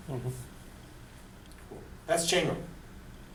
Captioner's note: voiceover